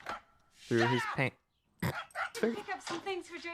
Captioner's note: to dog barking outside